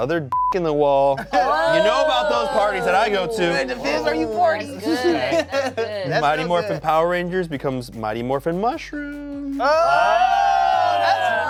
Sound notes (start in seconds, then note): 0.3 beep; 1.2 cast exclaims; 9.6 cast exclaims